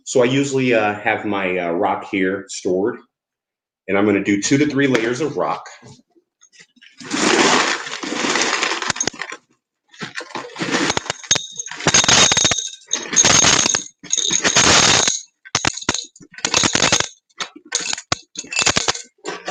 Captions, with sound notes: So I usually have my rock here stored and I'm gonna do two to three layers of rock. (stones clattering) (clinking into bowl)